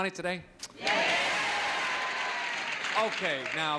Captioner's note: audience cheers